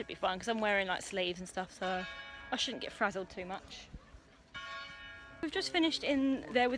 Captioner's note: bell chimes time in background